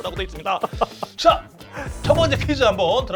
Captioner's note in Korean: 웃음